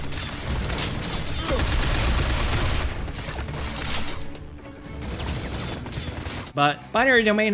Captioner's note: weapons firing; bullets clanging